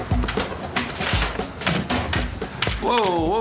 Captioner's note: shutter clicking